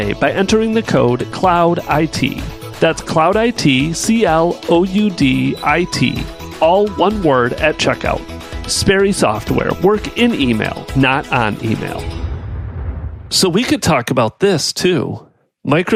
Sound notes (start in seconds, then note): 11.9 electronic rumble